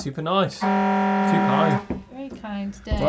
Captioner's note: siren beeping